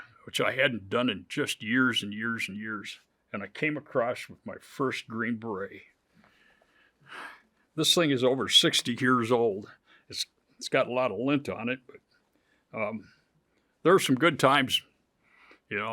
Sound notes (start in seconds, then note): 7.2 chuckles